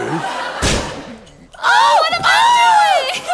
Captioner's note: bang